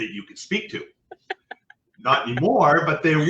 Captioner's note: laughing